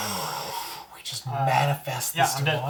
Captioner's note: gasps